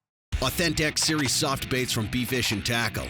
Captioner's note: voiceover